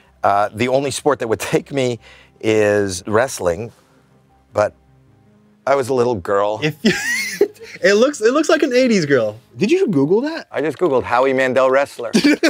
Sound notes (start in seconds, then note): 6.9 wheezes; 12.1 laughs